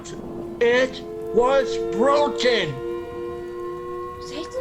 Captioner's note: the creature howls